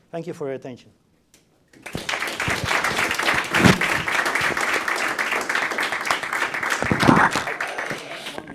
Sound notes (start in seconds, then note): 1.8 applause